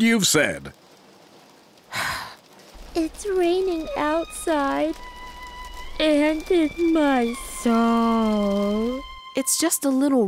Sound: sighs

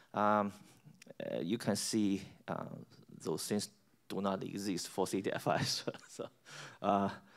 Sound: laughs

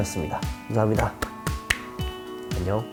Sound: claps

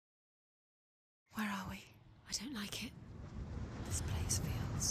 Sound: whispering

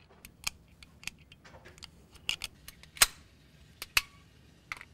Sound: clicks

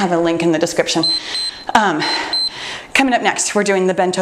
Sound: timer beeps

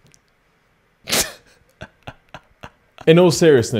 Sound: chuckling

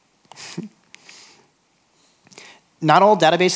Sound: chuckles

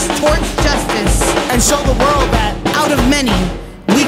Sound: male Voice

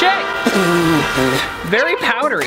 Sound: blows raspberry

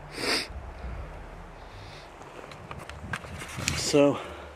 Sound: sniffles

